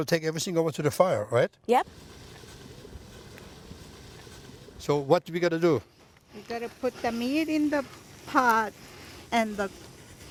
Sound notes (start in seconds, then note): 4.4 sizzling